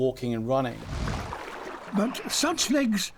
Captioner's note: water sloshing